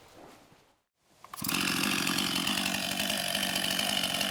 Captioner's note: chainsaw running